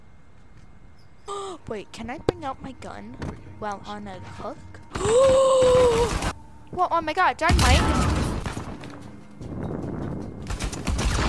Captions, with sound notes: *Gasp* Wait; can I bring out my gun? While on a hook? *Gasps in awe and shock* Woah - Oh my God, dynamite!! >.<